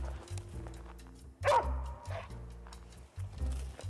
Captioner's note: bright rhythmic jazz music; dog barking; rhythmic bright music